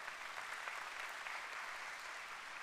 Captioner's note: applause